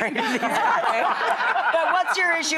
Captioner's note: audience laughing